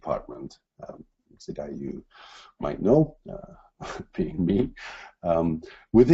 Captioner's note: laughs